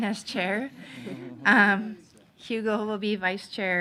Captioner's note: people giggling